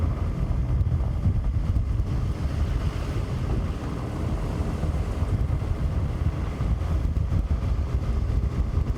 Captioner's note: road noise